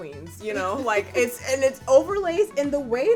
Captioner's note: laughs